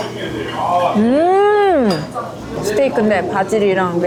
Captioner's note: mmmm